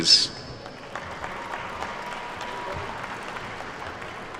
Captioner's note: attendees clapping